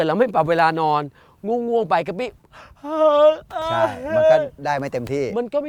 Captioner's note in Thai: ทำเสียงหาว